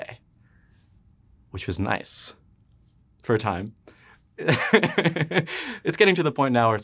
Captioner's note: laughs